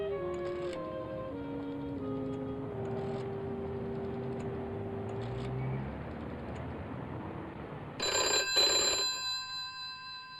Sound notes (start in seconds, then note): 0.2 rotary dial cranking; 2.8 rotary dial cranking; 8.0 phone rings